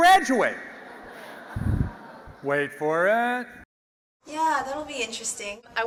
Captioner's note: laugh